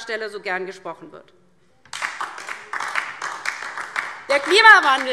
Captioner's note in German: Beifall DIE LINKE